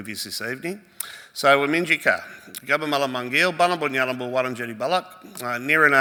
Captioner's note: speaks Woiwurrung